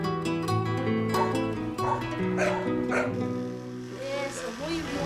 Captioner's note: dogs barking; speaking in a foreign language